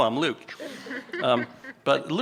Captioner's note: audience member chuckles